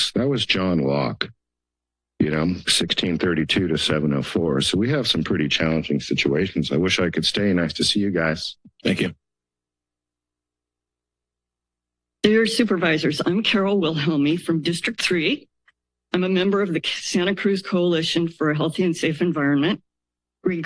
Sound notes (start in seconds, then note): 9.4 silence